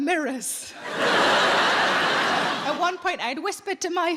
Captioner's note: audience laughing